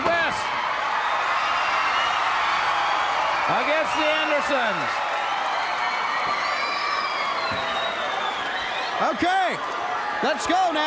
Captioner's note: crowd cheering